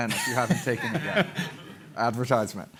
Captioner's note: laughter